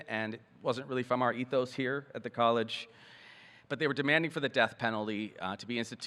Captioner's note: none